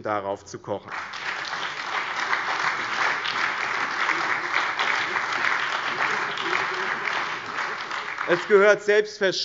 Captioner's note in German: Beifall